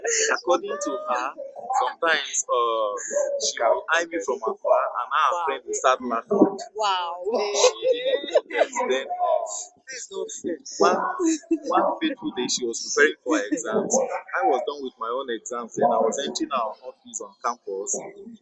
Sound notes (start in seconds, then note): 6.8 wife laughing. This is not fair